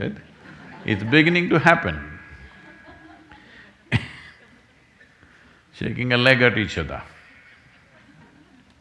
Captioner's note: laughs